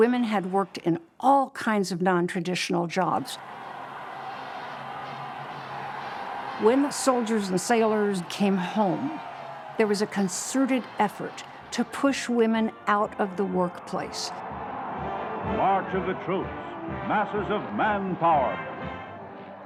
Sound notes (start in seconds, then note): 3.2 cheers and applause; 12.8 band playing, crowd cheering